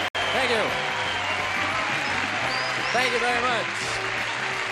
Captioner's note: theme music; applause